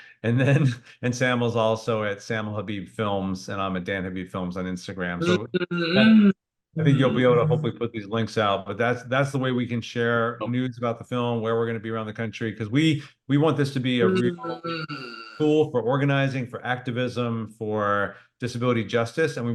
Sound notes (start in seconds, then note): 0.9 laughs; 6.8 murmurs